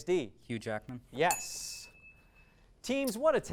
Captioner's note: ding